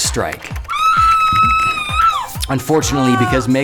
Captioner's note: screaming